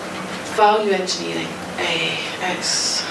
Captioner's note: sighs